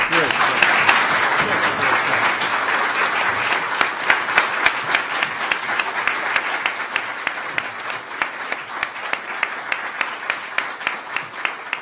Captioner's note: applause